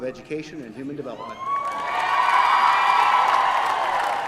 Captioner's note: cheering